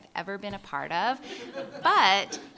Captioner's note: laughter